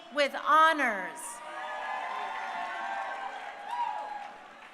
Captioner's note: crowd cheering